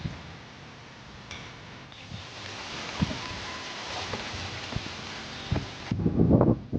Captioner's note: knife scoring; birds chirping